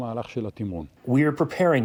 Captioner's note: through translator